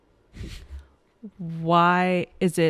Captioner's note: chuckles